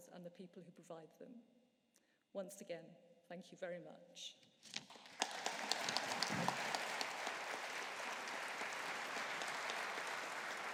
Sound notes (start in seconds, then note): 4.9 audience applauding